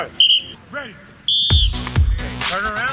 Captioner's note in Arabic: صافرة